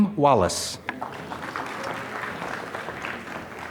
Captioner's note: applause